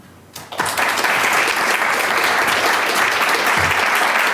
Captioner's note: audience applauding